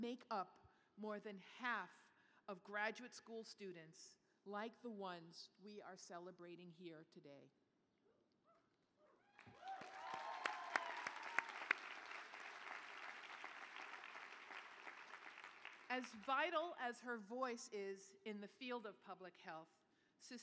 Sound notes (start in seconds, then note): 9.3 applause